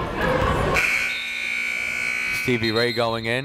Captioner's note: buzzer blaring